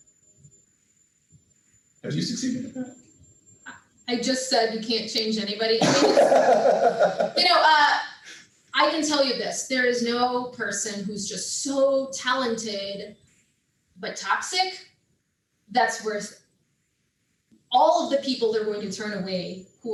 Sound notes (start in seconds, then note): 5.8 laughs